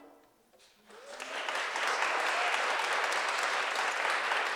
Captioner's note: applause